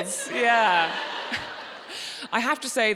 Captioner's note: audience laughing